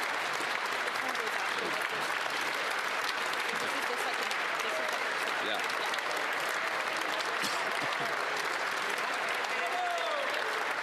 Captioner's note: applause